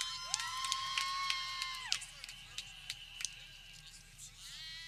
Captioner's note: people cheering